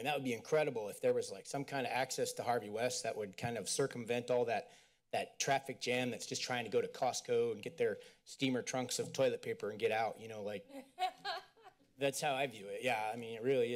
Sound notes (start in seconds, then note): 10.8 laughter